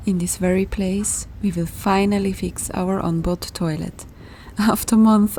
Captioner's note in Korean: 엔진